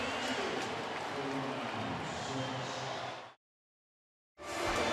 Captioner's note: pa announcement